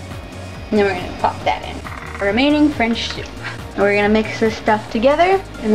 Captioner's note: fast tapping